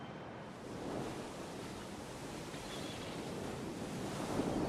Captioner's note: ocean waves